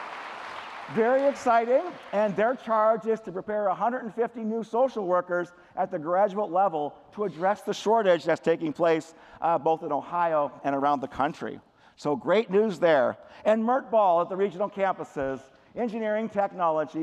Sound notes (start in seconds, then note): 2.0 applause